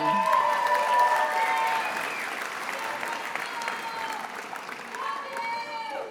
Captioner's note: attendees applauding and cheering